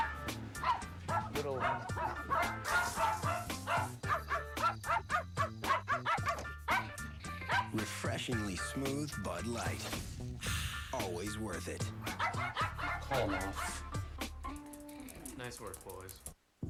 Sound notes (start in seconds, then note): 0.0 dogs barking; 11.9 dogs barking